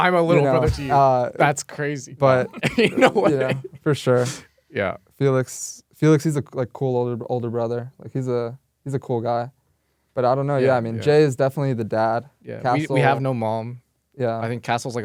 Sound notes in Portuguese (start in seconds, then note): 2.4 risos